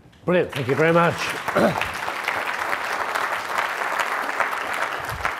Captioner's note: audience clapping